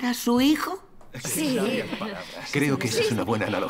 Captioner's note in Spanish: risas